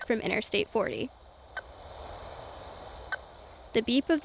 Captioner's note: transmitter beeping